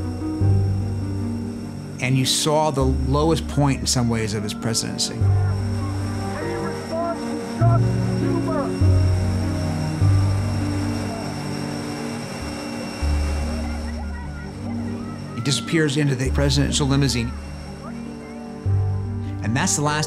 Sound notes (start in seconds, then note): 7.8 shouting over jet hissing; 14.4 reporters shouting questions